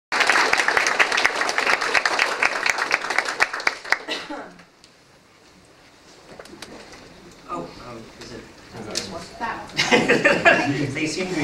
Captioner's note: applause